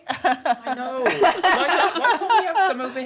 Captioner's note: laughing